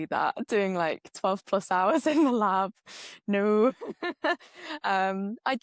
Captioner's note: laughs